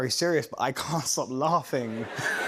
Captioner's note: laughter